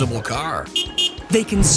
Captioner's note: honk Honk